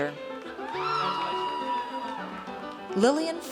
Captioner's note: audience cheers